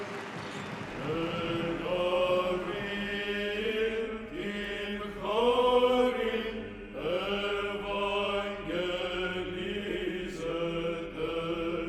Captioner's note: chanting